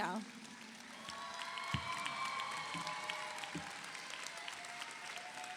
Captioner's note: audience applauds